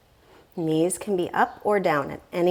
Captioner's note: deep breathing sounds